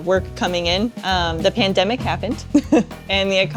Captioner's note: laughs